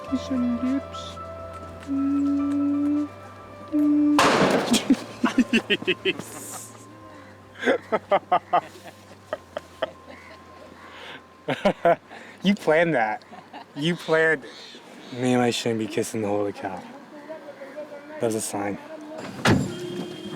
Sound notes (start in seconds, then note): 4.2 loud explosion; 4.7 laughter